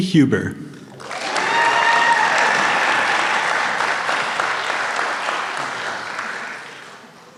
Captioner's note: applause